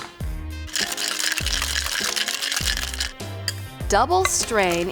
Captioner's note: ice rattling